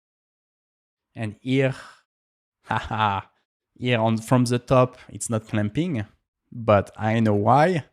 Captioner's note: laughs